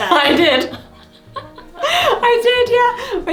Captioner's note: laughs